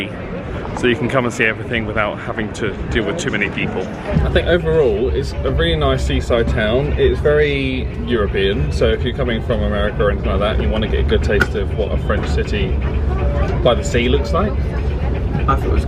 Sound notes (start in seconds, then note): none